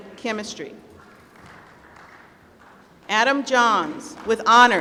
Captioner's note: applause